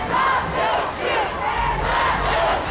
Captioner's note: crowd